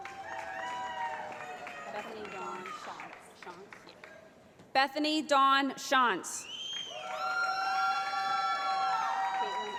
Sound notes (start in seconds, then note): 0.0 cheering; 6.7 cheering